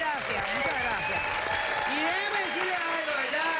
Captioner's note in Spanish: Aplausos